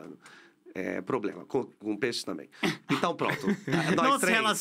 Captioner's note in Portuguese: risos